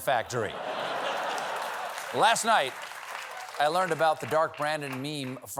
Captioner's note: laughter